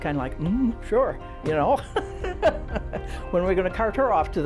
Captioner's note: laughs